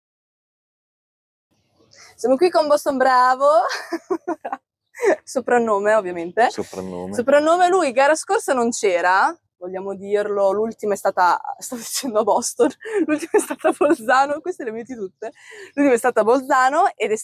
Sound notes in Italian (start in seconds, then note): 3.6 risate; 12.8 risate